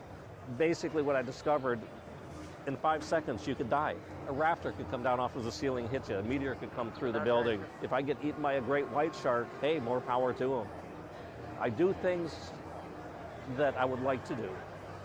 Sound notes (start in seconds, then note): none